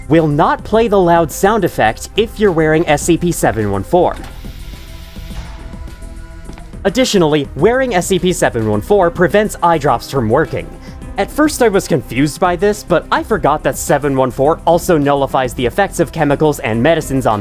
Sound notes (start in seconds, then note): 6.8 door shuts without any other sound